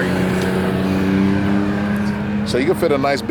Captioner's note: car engine